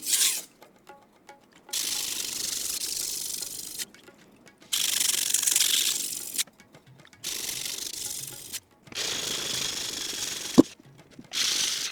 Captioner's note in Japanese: 刃先を研ぐ音